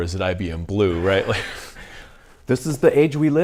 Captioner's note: both laugh